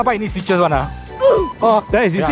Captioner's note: beep